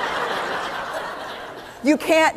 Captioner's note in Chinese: 笑聲